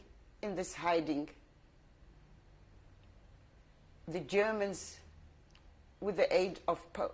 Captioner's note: pauses for 3 seconds